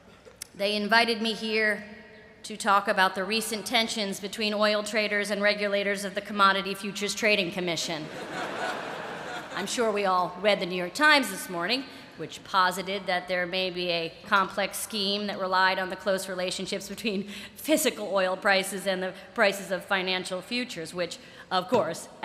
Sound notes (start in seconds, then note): 8.0 laughter